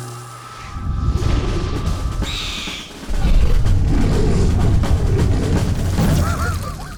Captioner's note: marching band music; owlbear roaring; cast laughing